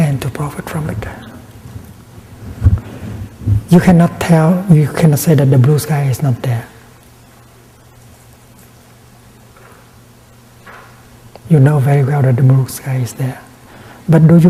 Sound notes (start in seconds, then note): none